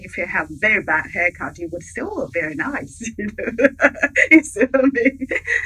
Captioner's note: chuckling